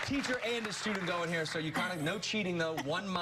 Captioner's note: applause